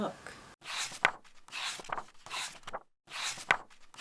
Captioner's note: pages turning